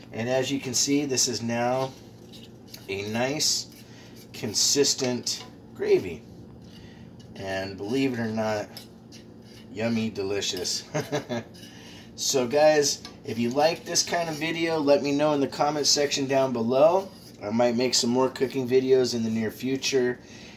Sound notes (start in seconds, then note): 10.9 laughs